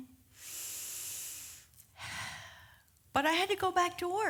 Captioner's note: deep sigh